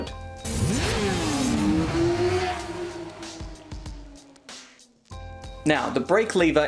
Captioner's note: bike engine roaring; bright music